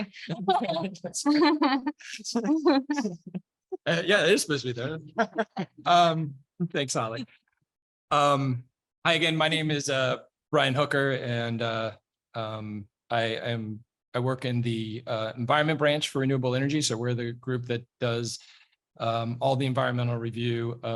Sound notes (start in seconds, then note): 3.8 laughing